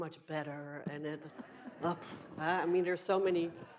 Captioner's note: audience laughs